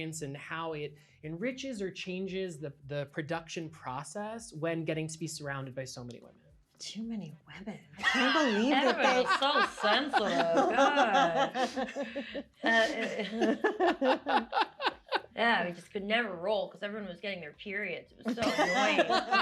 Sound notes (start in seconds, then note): 10.3 laughter